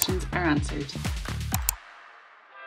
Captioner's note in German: Klicken